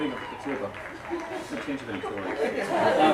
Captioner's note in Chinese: 棒球场喧闹